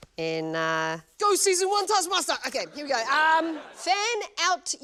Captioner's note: laughter